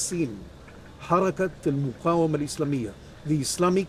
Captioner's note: speaking in Arabic